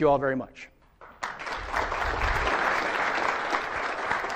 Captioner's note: applause